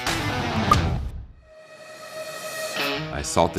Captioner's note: pops